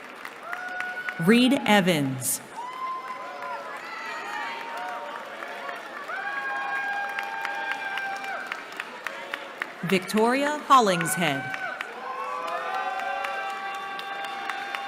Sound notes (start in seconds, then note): 2.4 cheering